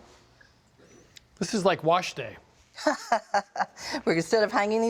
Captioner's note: laughs